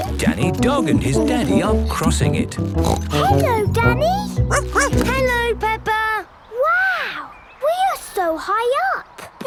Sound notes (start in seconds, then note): 2.8 snorts; 4.5 barks